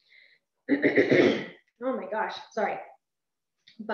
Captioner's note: coughs